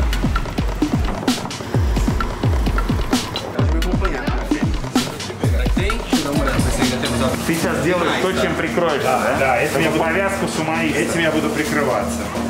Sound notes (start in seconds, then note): 3.8 chatter in Portuguese